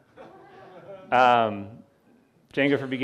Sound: audience laughing

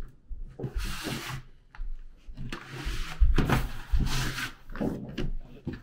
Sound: angling tool scraping

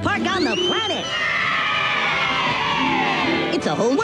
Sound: kids screaming "Yeah"

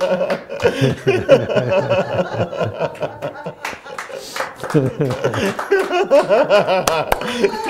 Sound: laughter and clapping of hands

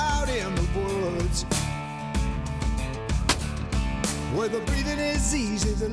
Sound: gunshot

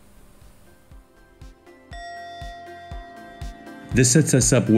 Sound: meditation bell rings

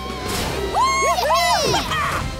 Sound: cheering

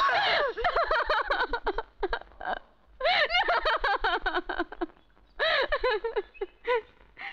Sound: sobbing

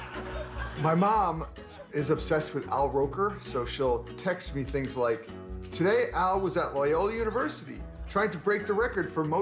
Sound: laughter

